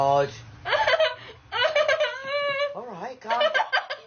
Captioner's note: crying